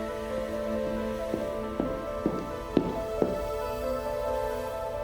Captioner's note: tense music continues; footsteps thudding; suspenseful music